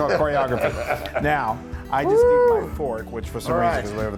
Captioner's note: laugh